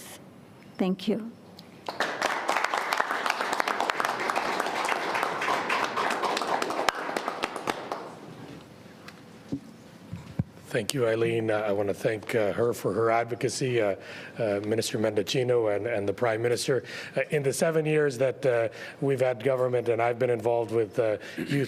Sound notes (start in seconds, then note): 6.3 applause